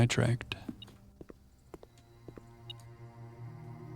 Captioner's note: beeping